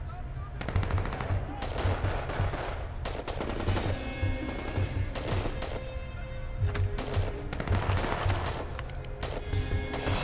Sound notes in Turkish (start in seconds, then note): 0.6 Silah sesleri; 6.7 Silah sesleri